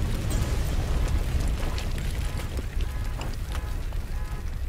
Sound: car alarm blaring

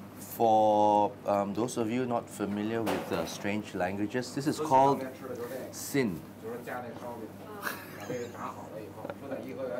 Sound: laughs

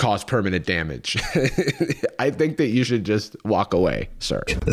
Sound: laughs

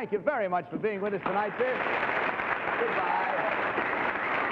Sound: audience applauds

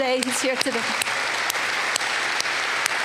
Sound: applause

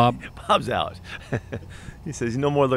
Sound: laughter

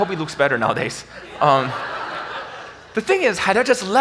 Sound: audience laughs

